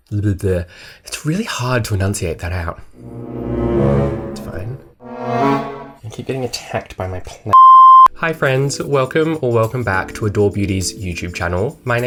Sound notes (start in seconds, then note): 2.9 dramatic music; 7.5 beep